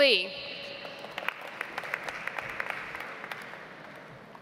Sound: audience applauds

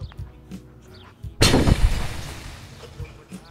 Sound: smoke bomb explosion

